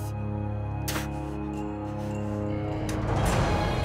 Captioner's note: spits